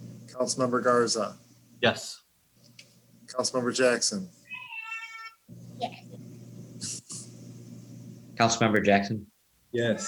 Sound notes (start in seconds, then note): 5.7 child chattering; 7.0 chuckles